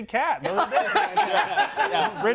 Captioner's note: group laughs